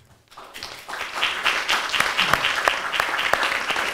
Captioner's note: applause